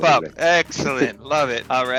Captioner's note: giggles